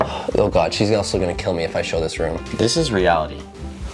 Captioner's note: door knocking